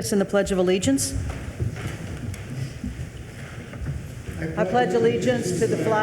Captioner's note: attendees rustling